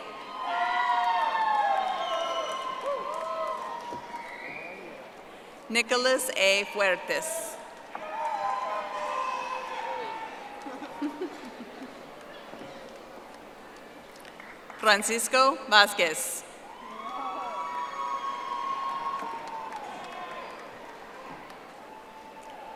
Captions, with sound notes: Stephanie Yvette Castillo. (audience applauding) Nicholas A. Fuertes. (audience applauding) Francisco Vasquez. (audience applauding)